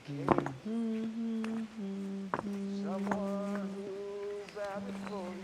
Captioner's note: Helen humming